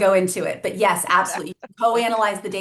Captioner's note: laughs